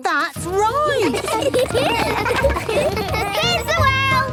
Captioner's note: laughter